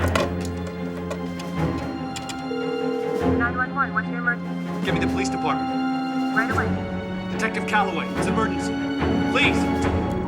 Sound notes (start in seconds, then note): 0.1 scary music; 3.9 ringing